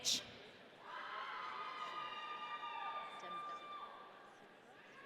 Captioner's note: audience cheering